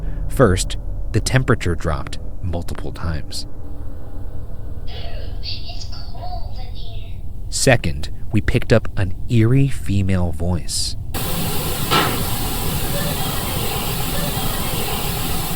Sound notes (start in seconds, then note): 11.1 device hissing and chattering